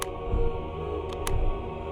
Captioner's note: click